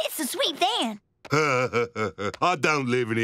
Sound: laughing

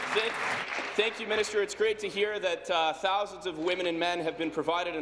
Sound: applause

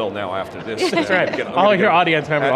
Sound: laughing

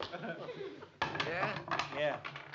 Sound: clipboard clatters

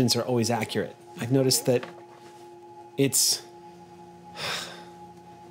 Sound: sighs

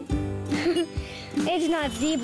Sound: giggles

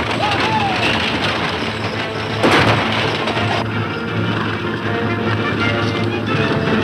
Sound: loud hoofbeats and wagons rattling; gunshot

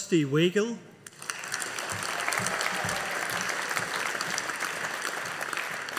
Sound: audience applauding

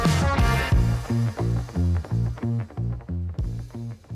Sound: upbeat rock music; crackling

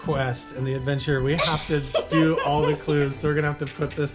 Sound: laughter

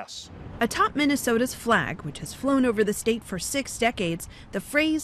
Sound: voice-over

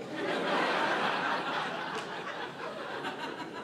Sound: audience laughing

